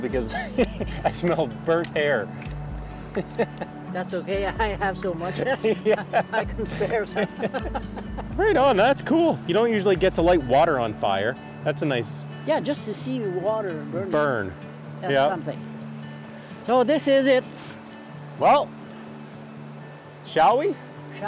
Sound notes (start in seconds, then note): 3.0 laughs; 3.1 laughter; 5.2 laughs